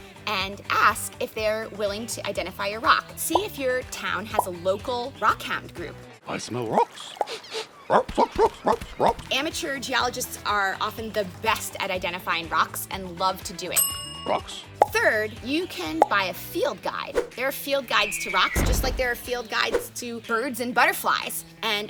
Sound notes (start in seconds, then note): 7.3 dog sniffing; 7.9 dog barking; 13.8 bell dinging